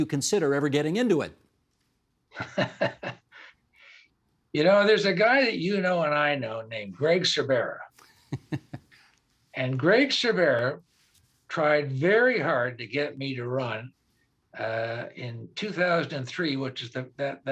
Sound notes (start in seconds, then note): 3.1 laughing; 8.0 chuckling